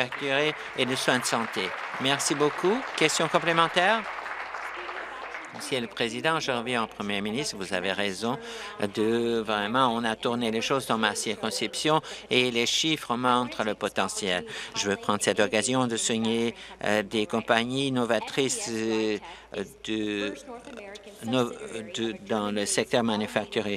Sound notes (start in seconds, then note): 6.3 applause